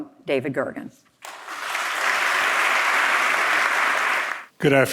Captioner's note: audience applauding